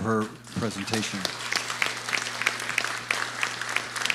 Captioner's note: applause